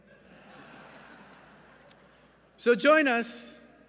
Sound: laughter

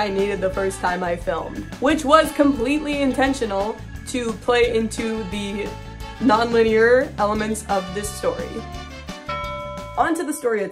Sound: bell sound effect

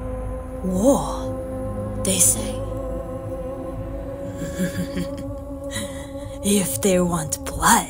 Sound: chuckles

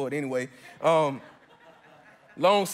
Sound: congregants chuckle

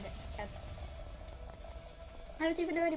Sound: click

